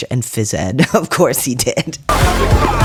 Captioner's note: laugh